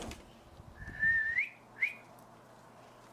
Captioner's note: slides door open; whistles